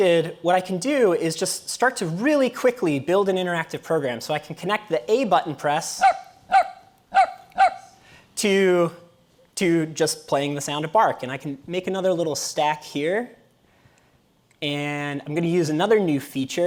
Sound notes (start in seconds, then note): 7.1 dog barking